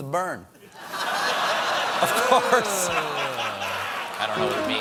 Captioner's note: laughter